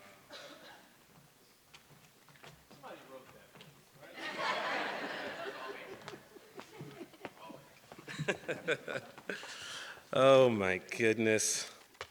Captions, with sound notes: Somebody wrote that for you, right? (audience laughs) (Lamorne laughs) Oh my goodness.